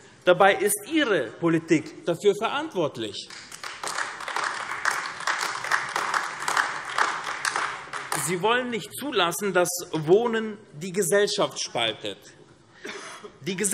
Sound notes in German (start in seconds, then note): 3.2 Beifall AfD